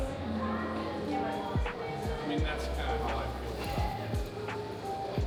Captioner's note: children chattering